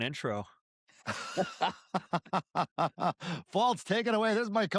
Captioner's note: laughter